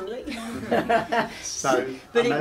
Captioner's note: laughs